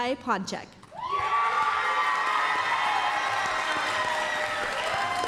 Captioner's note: applause, cheering